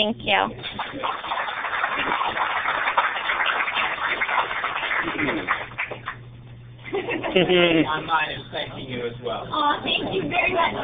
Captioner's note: applause